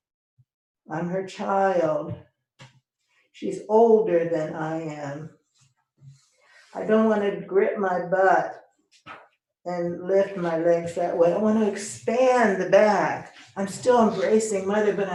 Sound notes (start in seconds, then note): none